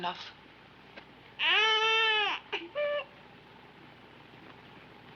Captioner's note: child cooing